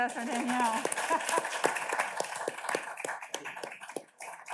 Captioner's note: audience claps